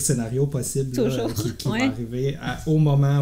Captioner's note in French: rires